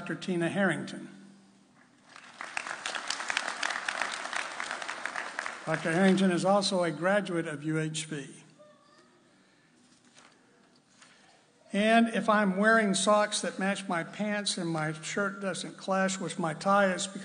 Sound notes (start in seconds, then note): 2.0 applauding